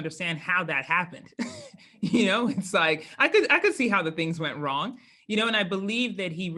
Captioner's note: laugh